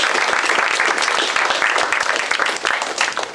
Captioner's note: applause